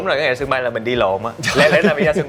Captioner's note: laugh